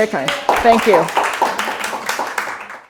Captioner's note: applause